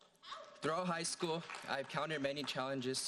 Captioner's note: audience applauding